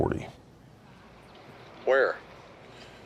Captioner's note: on phone